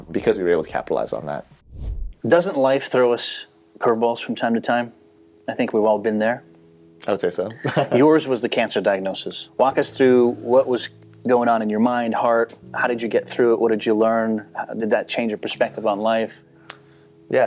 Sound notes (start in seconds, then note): 7.5 laughing